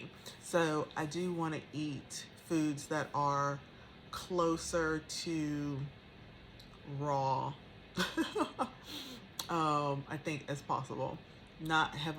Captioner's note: haha